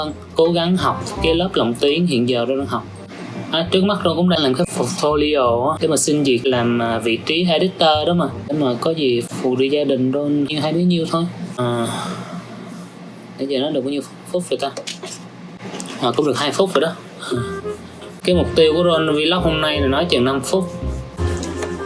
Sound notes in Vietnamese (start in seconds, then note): 11.8 Thở dài; 17.3 Cười